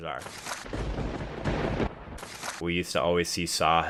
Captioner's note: lightning striking